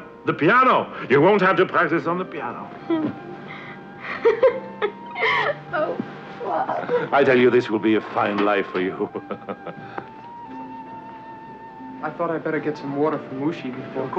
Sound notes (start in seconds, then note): 4.0 Anne giggling; 8.7 chuckles